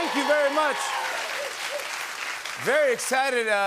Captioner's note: cheers and applause